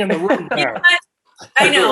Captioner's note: laughing